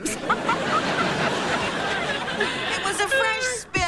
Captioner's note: laughing